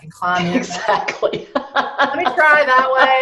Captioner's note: laughs